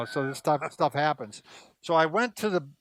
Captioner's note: laughing